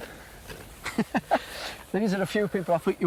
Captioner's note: laughing